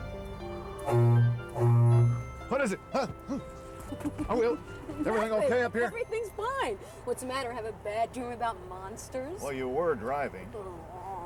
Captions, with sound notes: [HORN HONKS] WHAT IS IT?! HUH?! HMM?! ARE WE-- EVERYTHING OK UP HERE? EVERYTHING'S FINE. WHAT'S THE MATTER, HAVE A BAD DREAM ABOUT MONSTERS? WELL, YOU WERE DRIVING.